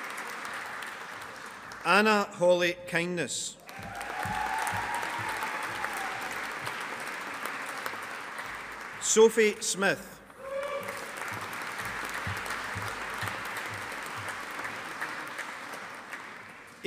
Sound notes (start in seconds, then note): 3.6 audience applauding